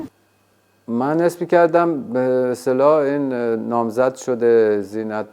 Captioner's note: speaking foreign language